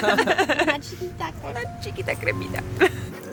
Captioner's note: all laughing; laughs